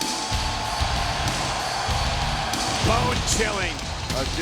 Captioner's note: audience cheering